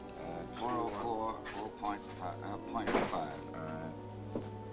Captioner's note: door closes